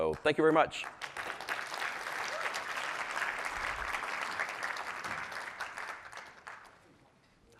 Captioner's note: applause